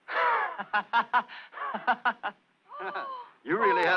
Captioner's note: man laughs